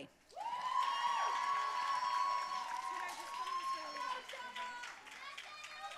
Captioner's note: audience cheering and applauding